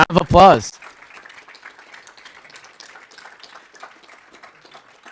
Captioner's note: audience applauding